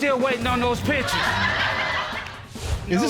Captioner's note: laughter